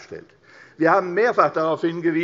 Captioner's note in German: none